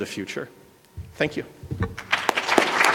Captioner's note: applause